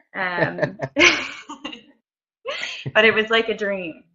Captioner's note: both laughing